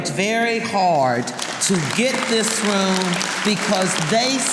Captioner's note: audience applauding